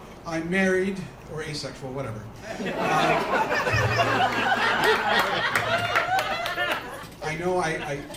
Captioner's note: laughter